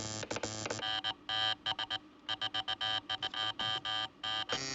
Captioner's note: Clique, Zumbido; Clique, Zumbido Continue